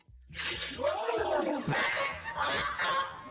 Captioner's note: laughing